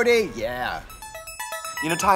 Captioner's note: ringing sound